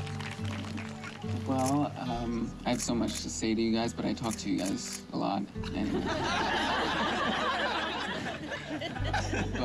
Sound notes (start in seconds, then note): 5.7 laughing